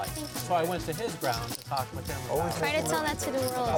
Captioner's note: chattering